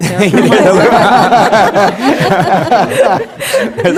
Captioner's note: laughing